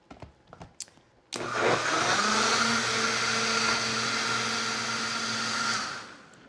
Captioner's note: blender whirs